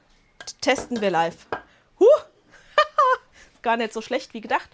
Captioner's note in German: gelächter